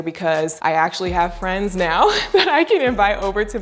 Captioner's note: laughs